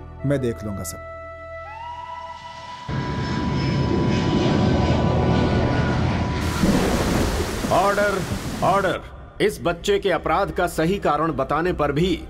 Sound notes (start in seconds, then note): 2.8 flight takes off; 6.4 pouring heavily